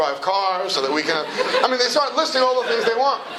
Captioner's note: laughter